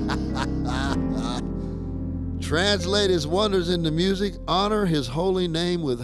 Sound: chuckling

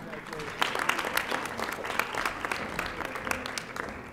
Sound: audience applauding

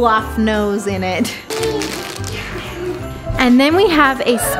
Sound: kids giggling

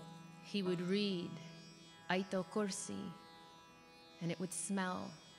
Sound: speaks in foreign language

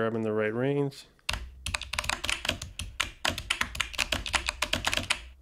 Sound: keyboard sounds

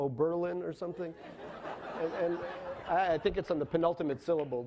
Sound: laughing

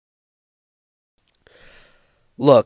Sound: deep breath

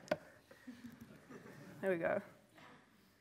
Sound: laughter

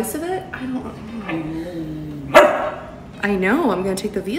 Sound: Gus barking

